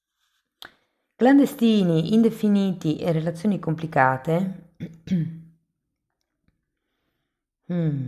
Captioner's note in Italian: schiarire la voce